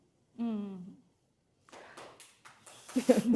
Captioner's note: audience applauding; chuckles